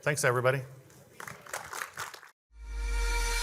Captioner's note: audience applauding; upbeat music